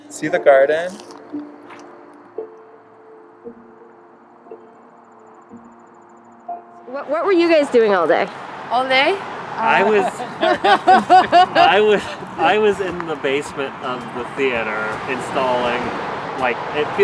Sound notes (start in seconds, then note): 3.1 smooth ambient music; 10.7 crew laughing; 12.3 laughs